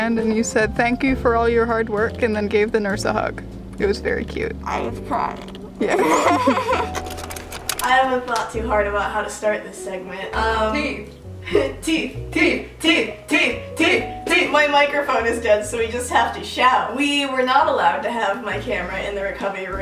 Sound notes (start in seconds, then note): 5.8 both laughing; 6.6 camera rattling; 11.7 laughing